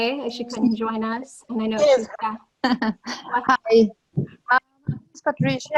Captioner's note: voice muffled